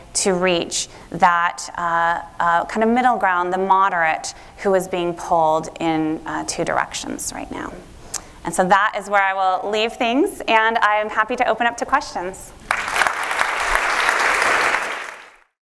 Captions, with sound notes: to reach that kind of middle ground, the moderate who is being pulled in two directions right now. And so that is where I will leave things. And I am happy to open up to [APPLAUSE]